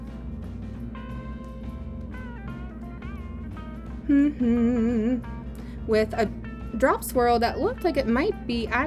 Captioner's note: humming